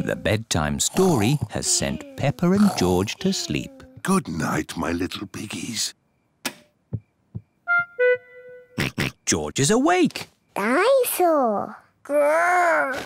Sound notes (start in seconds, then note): 6.3 light switch clicks; 8.3 oinks